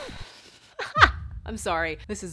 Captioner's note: laughs